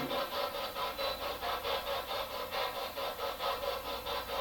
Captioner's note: machine humming